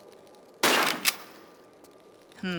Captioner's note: bam